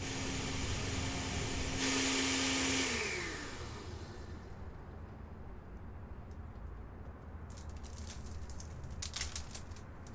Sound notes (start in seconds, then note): 0.0 blender whirring; 3.4 whirring stops